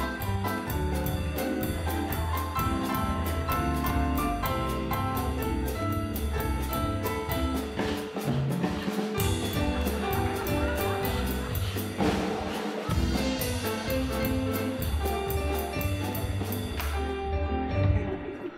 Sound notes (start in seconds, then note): 7.5 all panting; 8.9 jazz music; 11.5 all panting; 12.9 jazz music